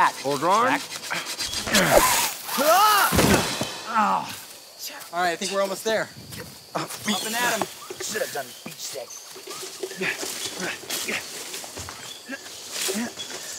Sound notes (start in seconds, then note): 1.5 grunting; 2.9 yelling; 9.8 grunting